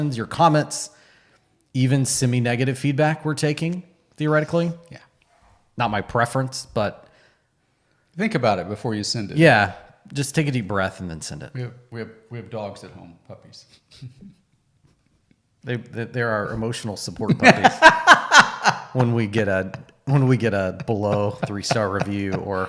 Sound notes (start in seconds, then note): 17.3 laughing